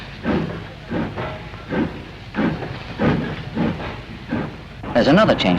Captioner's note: noise of a steam engine